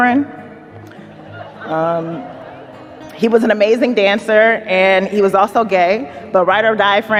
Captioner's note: audience laughs